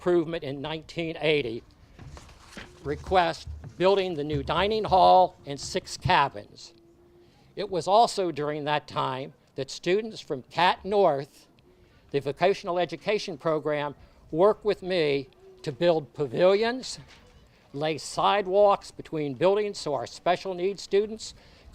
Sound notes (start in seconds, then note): none